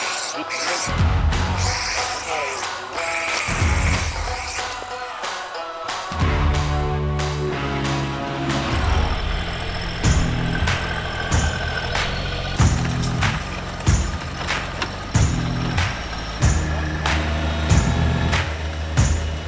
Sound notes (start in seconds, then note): 0.1 upbeat music; 0.1 whooshing; 6.0 upbeat music; 9.0 engine revving; 10.2 upbeat music